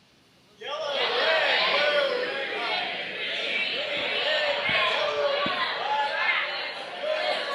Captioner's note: crowd